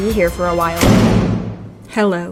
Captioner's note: slam